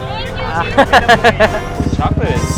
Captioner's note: laughs